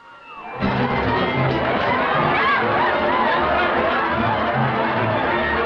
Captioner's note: partygoers shouting and laughing